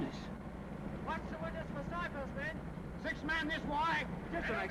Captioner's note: soldiers giving orders